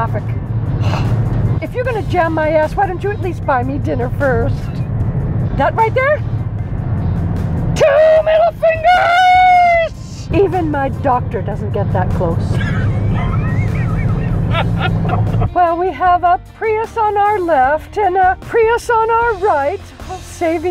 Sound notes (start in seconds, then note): 12.5 giggles; 12.5 laughter